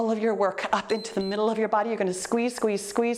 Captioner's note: timer beeps